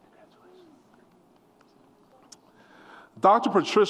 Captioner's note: whispered